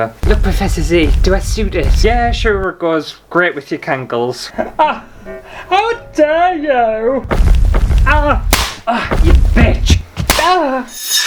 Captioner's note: slap!